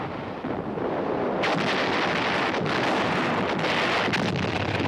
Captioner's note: artillery firing